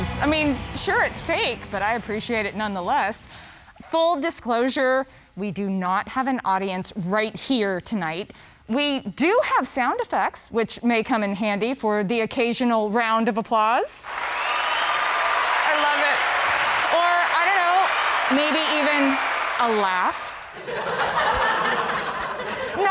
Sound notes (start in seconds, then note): 14.1 huge applause; 20.5 laughing sound effect